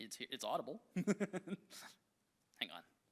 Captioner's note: chuckles